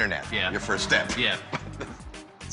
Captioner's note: chuckles